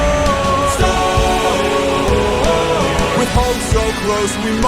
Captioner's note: storm